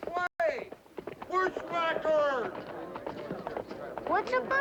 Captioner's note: crowd murmuring